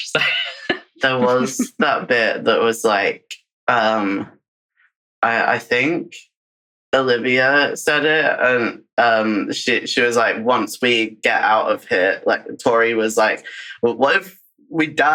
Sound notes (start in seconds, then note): 7.0 laughs